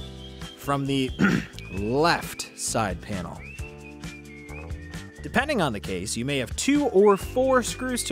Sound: ahem

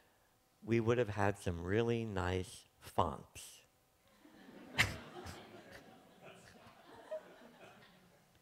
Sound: chuckles

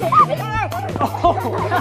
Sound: laughing; yells

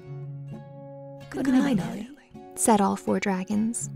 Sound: voiceover

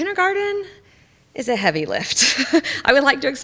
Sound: laughs

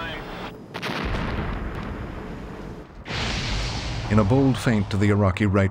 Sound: explosions rumbling; voiceover

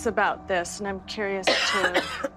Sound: coughs

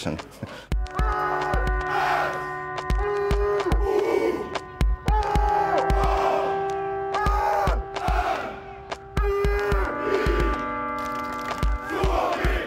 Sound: supporters shouting "S-U-O-M-I, SUOMI, SUOMI"

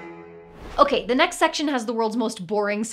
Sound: whoosh

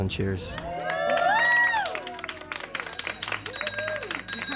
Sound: cheering, ringing

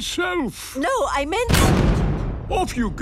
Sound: blasts off

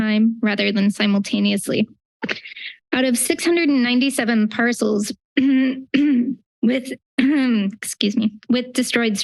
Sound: clears throat

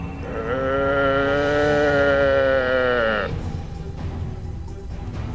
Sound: mimics buffalo moaning

